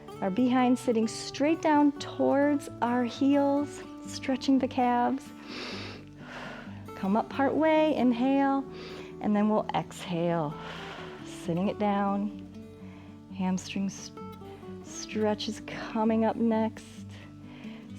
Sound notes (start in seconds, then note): 5.4 inhales and exhales; 8.5 inhales; 10.6 exhales